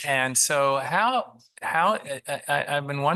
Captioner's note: multiple voices